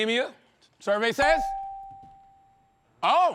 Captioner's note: bell dings